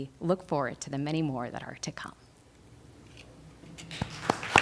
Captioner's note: applause